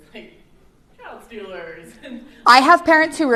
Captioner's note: laughter